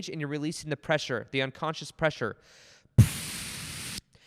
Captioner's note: blows into mic